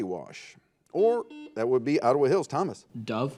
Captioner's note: buzzer